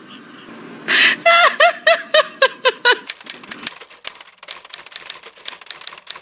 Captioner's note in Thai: เสียงหัวเราะ